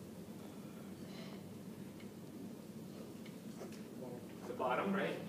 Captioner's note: background comments